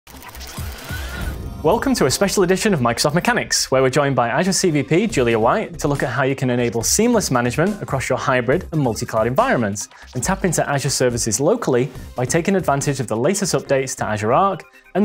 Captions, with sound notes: (gears revving) - Welcome to a special edition of Microsoft Mechanics, where we're joined by Azure CVP Julia White, to look at how you can enable seamless management across your hybrid and multi-cloud environments and tap into Azure services locally by taking advantage of the latest updates to Azure Arc